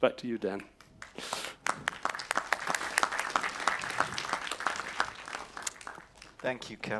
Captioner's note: applause